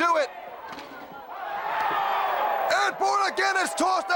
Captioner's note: crowd cheering